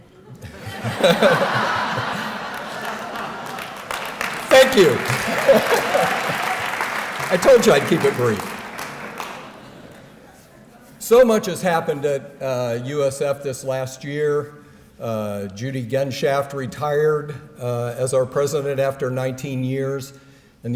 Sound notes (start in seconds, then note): 0.1 laughter; 2.5 applause